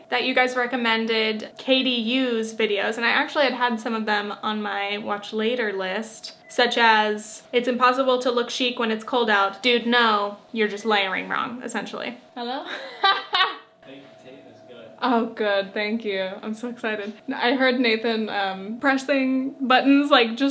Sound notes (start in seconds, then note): 12.7 laughs